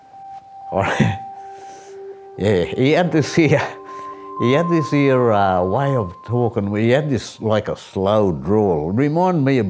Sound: cries, chuckles

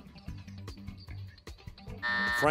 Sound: buzzer

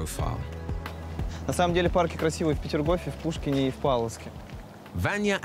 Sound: speaking in foreign language

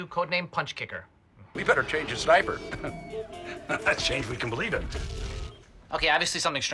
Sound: laughs

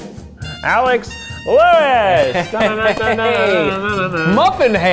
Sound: playful vocalizing

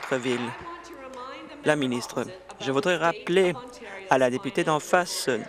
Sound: applause

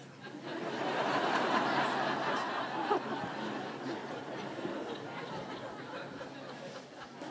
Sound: audience laughing

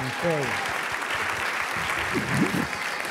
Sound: applause

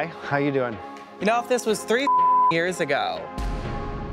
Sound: beep

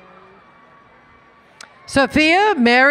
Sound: cheering

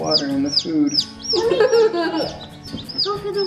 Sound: laughs

